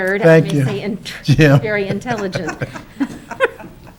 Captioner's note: laughs; council laughing